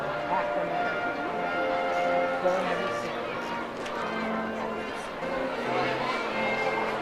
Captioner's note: overlapping chatter; slow baroque music